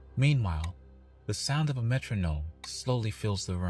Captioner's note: metronome at 30bph